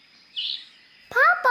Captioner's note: bird chirp